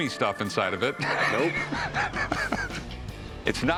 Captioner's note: laughs